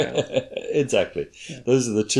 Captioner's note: laughs